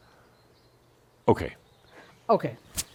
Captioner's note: slight pause